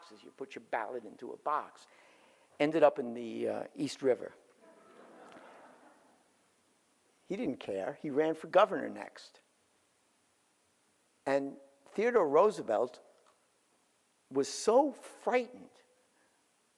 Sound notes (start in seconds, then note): 4.6 audience laughs